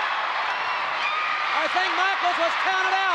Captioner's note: audience cheering